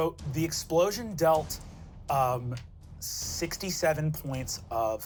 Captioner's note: none